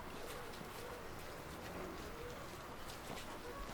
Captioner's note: footsteps on dirt